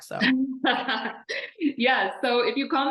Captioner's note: laughing